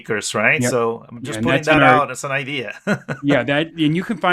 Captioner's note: laughs